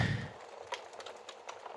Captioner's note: sighs yet again